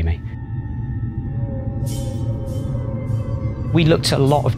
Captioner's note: eerie howling noises